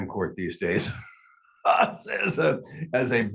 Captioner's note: laughing